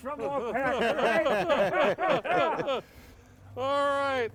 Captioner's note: everyone laughing